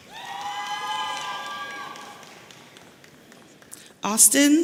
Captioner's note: audience cheering